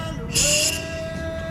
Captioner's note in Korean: 후우